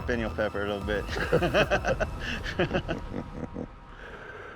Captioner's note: chuckling